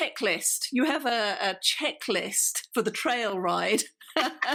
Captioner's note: both laugh